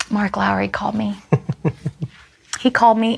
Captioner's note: chuckles